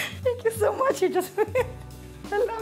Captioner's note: crying and laughing